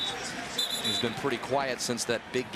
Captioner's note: whistling